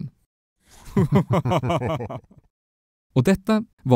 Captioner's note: evil laugh